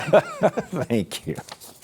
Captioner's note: laughter